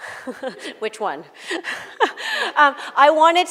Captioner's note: laughter